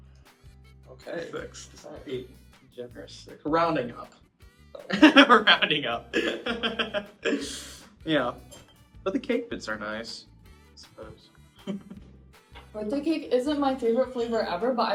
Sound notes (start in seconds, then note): 6.1 laughs; 11.6 chuckles